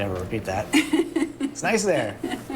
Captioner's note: laughing